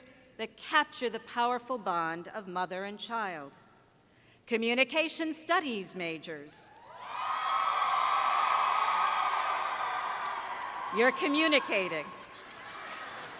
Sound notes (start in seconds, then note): 6.8 cheering